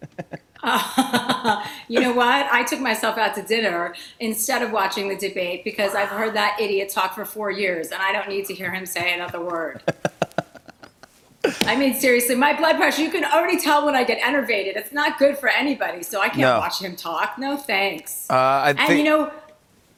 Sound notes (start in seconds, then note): 0.0 light laughter; 10.0 laughs